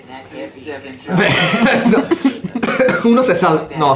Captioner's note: laughters